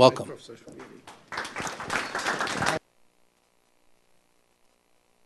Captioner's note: applause